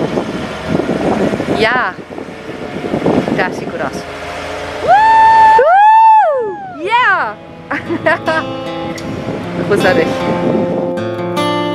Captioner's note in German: Jubel